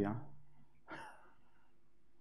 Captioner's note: laugh